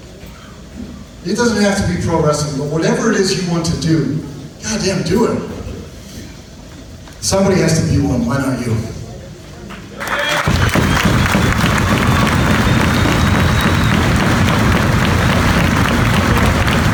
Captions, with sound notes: It doesn't have to be pro wrestling, but whatever it is you want to do, goddamn do it. Somebody has to be one, why not you? (audience applauds)